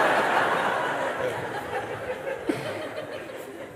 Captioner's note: Lachen